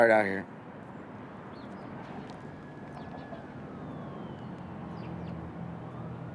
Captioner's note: siren